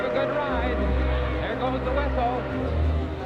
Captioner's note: whistle blowing